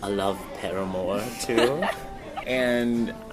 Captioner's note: laughing